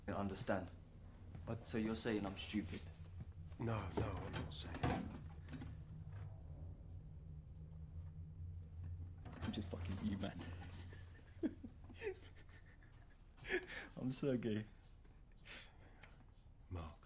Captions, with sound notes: SO YOU'RE SAYING I DIDN'T UNDERSTAND?I. SO YOU'RE SAYING I'M STUPID? NO. NO. I'M NOT SAYING THAT. I'M JUST FUCKING WITH YOU MAN. [LAUGHS] [LAUGHING] I'M SERGEI.